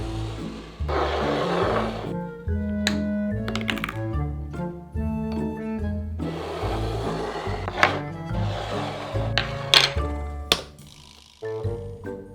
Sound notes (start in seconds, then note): 0.0 bowl sliding